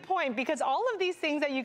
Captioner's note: none